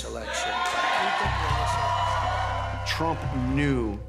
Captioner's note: cheers and applause